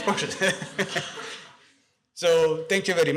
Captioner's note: laughter